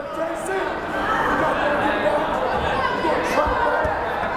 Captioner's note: yelling